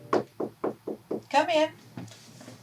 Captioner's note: knocking